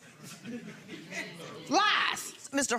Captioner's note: audience laughing